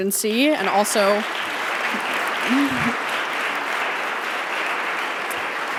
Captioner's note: audience applauding